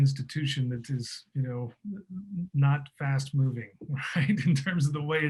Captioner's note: laughing